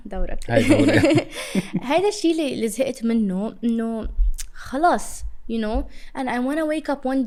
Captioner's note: laughter